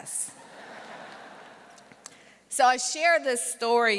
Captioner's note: audience laughter